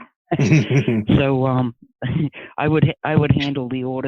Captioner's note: laughing